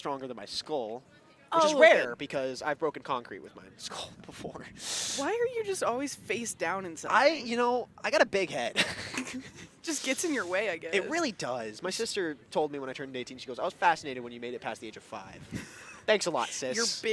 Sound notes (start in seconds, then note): 8.7 laughter; 15.4 laughs